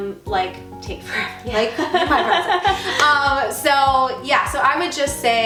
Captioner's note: laughing